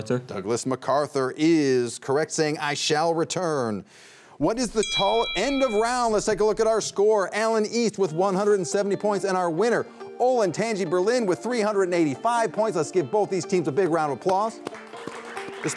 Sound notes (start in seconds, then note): 4.4 bell dings